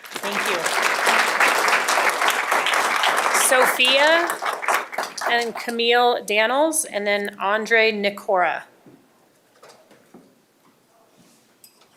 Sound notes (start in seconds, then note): 5.6 applause